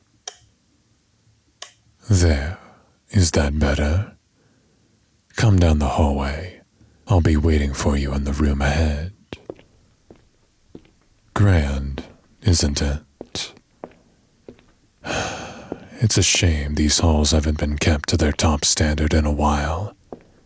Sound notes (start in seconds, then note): 10.3 footsteps; 15.0 sigh